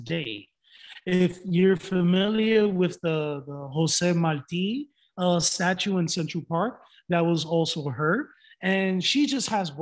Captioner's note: some audio distortion